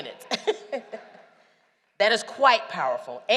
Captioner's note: laughter